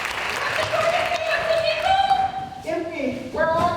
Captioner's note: applause